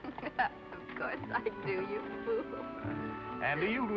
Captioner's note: in deep voice